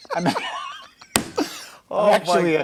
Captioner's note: laughter